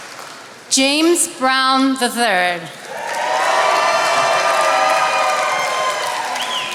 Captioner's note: attendees applauding